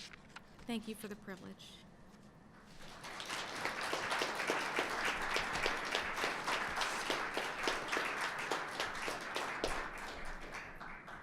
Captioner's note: applause